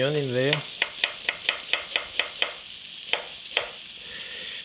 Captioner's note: knife chopping